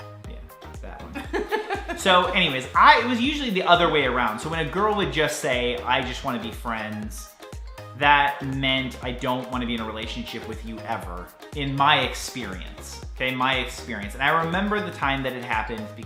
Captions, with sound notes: Yeah, that one. (laughter) So anyways, I was, it was usually the other way around. So when a girl would just say "I just wanna be friends," that meant I don't wanna be in a relationship with you ever, in my experience. Okay, my experience. And I remember the time that it happened,